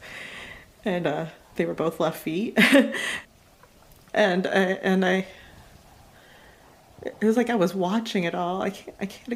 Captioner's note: laughs